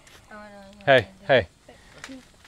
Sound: chattering

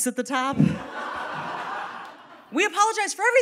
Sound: audience laughing

